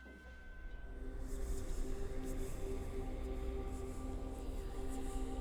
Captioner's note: eerie whispering